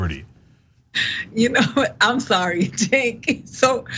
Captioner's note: laugh